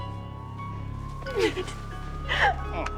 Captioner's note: siren wailing